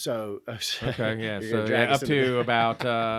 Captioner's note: laughing